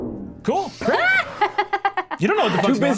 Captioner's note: laughs